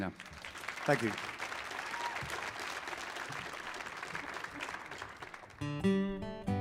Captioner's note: audience applauding; gentle guitar music